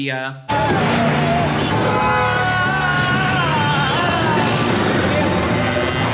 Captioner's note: car engines revving; man singing